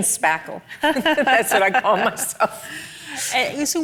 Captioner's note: both laugh